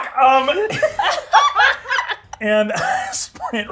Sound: participants laughing

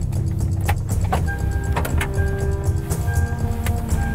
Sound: car beeping

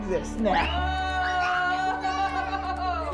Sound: children screaming

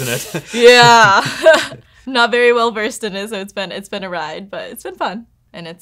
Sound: chuckles

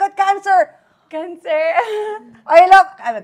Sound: laughs

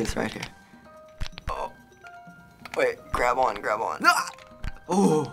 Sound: straining; startled grunt

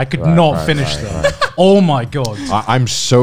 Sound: laughing loudly

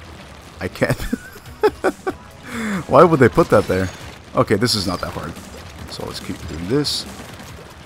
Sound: laughs

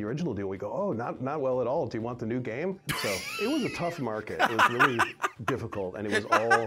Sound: laughs

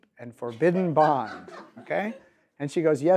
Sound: laughing in audience

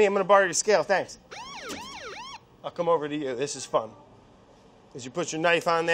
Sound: siren blaring

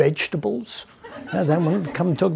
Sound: audience laughing

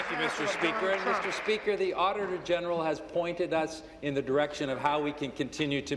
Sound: applause

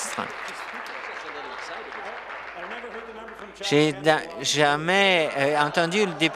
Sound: applause

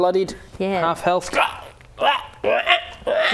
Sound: grunts of pain

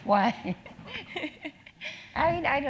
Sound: laugh

